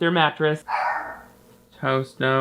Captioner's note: Toast barks